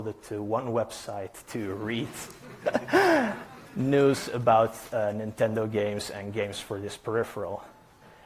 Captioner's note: chuckles